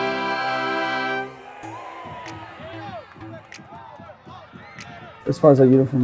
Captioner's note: people cheering